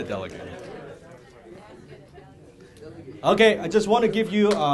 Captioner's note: audience murmuring to each other